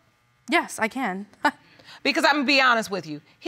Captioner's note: chuckles